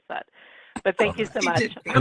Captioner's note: laughing